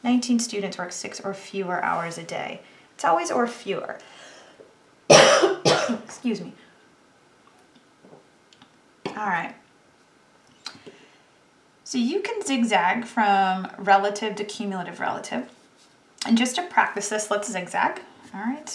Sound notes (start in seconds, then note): 8.1 coughs